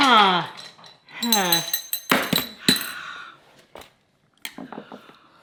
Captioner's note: metal clanging